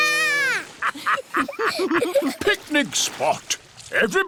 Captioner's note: laughter